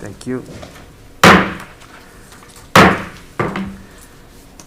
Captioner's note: mallet thudding